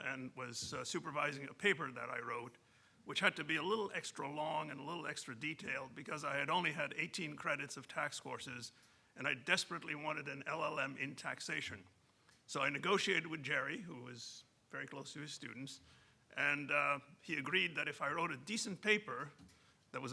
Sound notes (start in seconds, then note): none